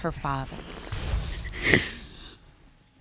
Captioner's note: sobbing